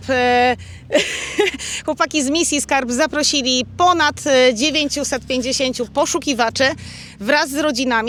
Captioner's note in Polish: śmiech